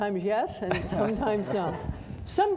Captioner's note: audience laughing